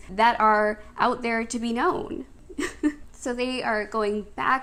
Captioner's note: laughs